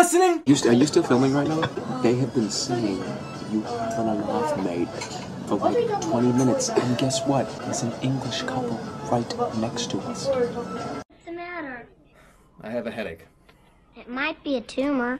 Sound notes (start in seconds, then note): 1.6 quietly; 8.2 English